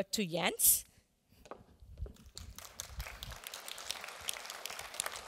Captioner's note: applause